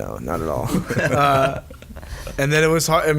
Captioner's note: all laugh